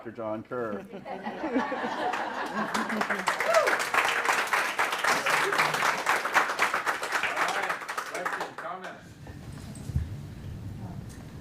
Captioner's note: laughing and clapping